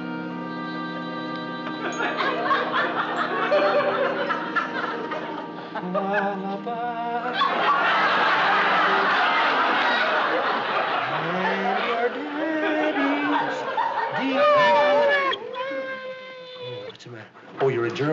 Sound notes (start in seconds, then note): 14.1 whimpering